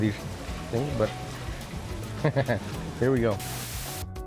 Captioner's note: chuckles